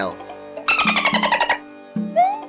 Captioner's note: affirmative dolphin noise